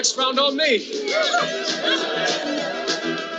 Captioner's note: all cheering; upbeat music